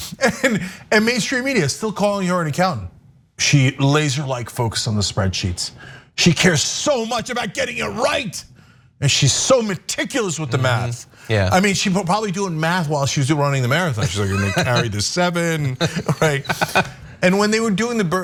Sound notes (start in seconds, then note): 14.0 laugh